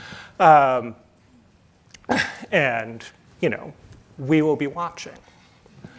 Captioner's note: chuckles